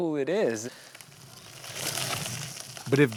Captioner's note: leaves rustling